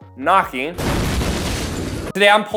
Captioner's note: door crashing